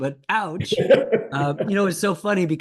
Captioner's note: Ken Rosenthal laughing